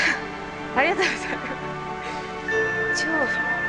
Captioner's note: speaks in Japanese; laughs